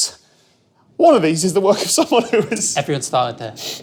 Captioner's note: laughs